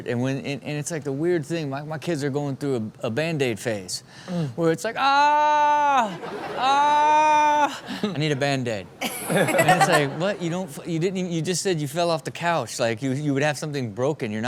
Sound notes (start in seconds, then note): 6.0 crowd laughs; 8.9 crowd and Chanel laugh